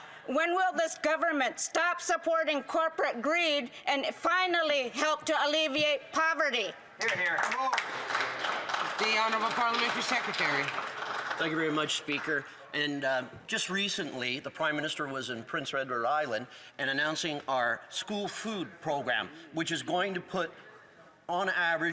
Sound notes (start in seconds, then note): 12.9 some Applause